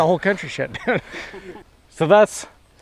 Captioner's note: laughs